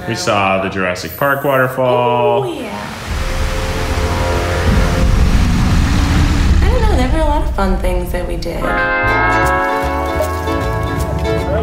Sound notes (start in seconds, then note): 2.6 waterfall crashing; 5.8 tyrannosaurus growling; 8.6 hawaiian music